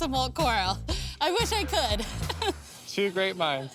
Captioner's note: laughs